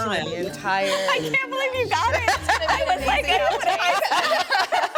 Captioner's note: everyone laughing